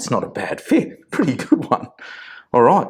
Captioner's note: chuckling